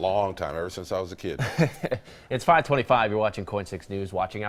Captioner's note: laughter